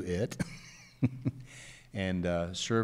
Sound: chuckles

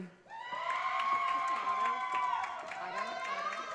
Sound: audience cheers

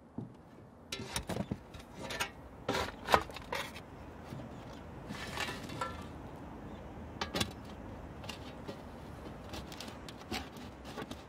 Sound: digging

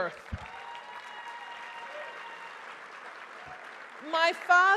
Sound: audience cheers

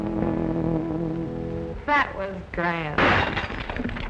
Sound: gunshot

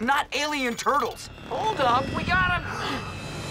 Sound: gasping

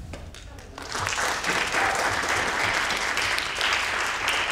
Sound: applause

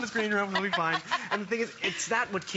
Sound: laughter

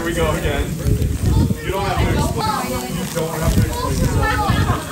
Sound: crowd conversation

